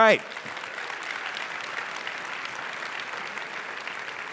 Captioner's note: applause